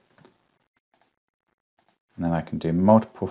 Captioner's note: mouse clicks